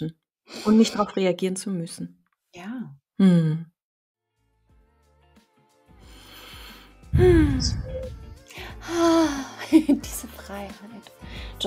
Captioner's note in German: lachen